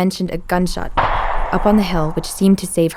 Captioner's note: gunfire booms